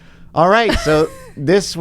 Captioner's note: laughs